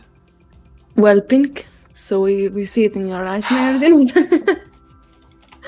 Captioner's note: laughs